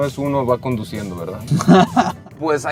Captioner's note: laughs